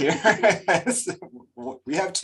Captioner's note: laughs